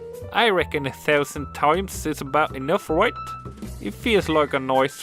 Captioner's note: with a bad New Zealand Accent